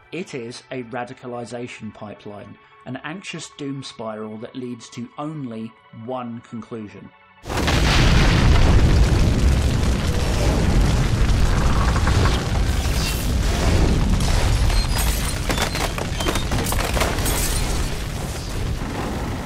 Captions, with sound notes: It is a radicalisation pipeline - an anxious doom spiral that leads to only one conclusion. [INTENSE BURNING]